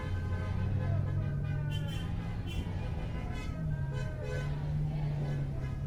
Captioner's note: students chattering